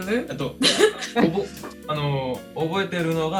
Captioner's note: laugh